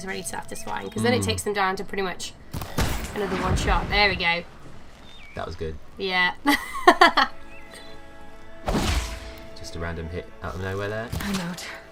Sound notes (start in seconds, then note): 6.4 laughs